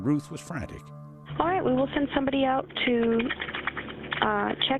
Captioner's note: 911 recording